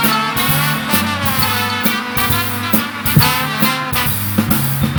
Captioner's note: audience cheering; uptempo cheery music